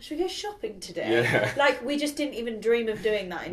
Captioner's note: chuckling